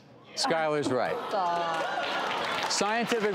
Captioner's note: all laughing and clapping